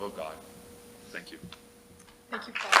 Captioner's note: applause